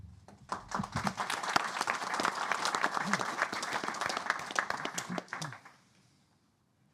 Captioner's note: applause